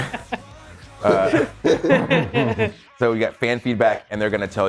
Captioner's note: laugh